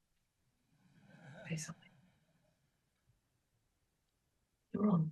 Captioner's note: audience chuckling